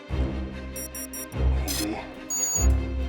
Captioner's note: beeping